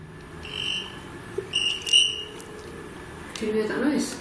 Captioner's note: device chirping